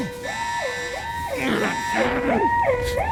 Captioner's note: moaning